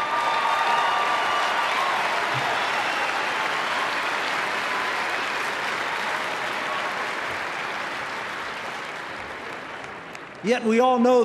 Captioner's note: applause